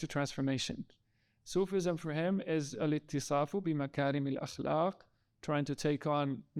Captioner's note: speaking in foreign language